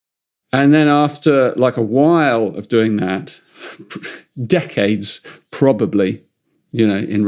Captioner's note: chuckles